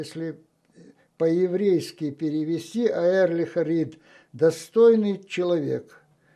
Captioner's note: yiddish